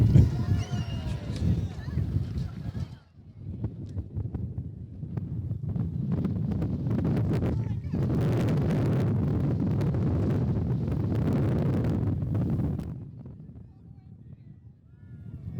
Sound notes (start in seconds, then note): 6.5 wind blowing